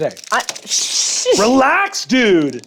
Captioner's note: laughs